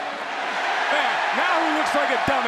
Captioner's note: crowd cheers